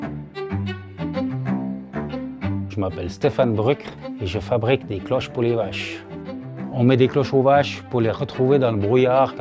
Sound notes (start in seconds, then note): 3.4 speaking in foreign language